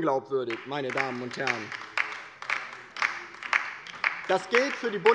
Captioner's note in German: Beifall bei der LINKEN